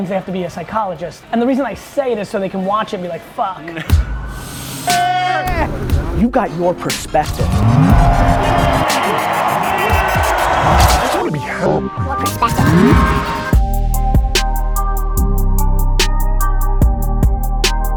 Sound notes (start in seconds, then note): 4.2 hip hop music; 11.5 robotic Voice; 13.8 hip hop beats